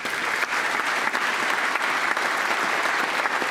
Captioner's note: applause